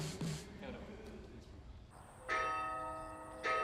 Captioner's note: bell tolls